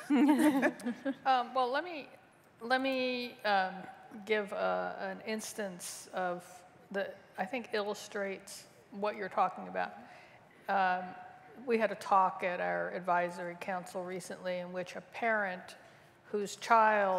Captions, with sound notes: [ LAUGHTER ] >> IS THAT A QUESTION? >> LET ME GIVE AN INSTANCE THAT I THINK ILLUSTRATES WHAT YOU ARE TALKING ABOUT. WE HAD A TALK AT OUR ADVISORY